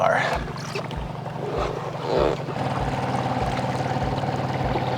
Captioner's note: boat motor hums